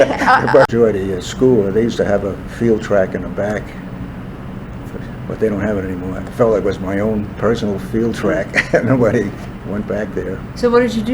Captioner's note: laughs